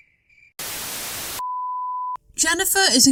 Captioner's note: static